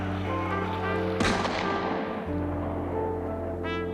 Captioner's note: gun fires